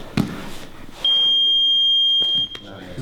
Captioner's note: beep